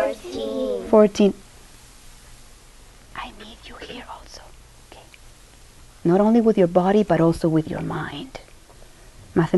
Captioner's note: whispers